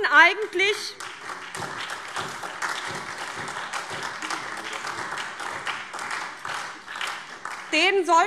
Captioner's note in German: Beifall SPD und DIE LINKE